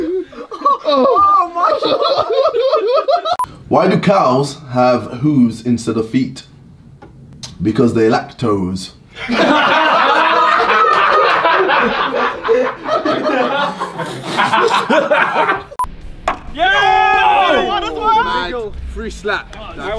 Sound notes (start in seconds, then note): 0.0 laughing; 9.1 people off camera laughing; 14.3 Simon laughing